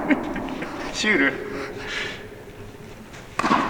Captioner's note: laughs